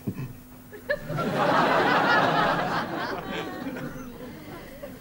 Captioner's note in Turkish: Gülme efekti